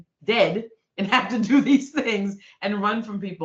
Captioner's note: laughing